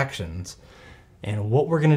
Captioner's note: takes a deep breath